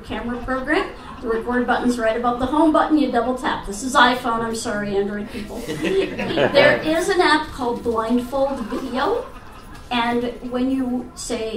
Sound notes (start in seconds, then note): 5.0 audience laughs